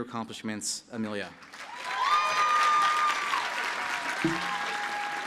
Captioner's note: applause and cheering